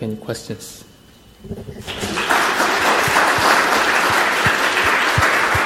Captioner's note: audience clapping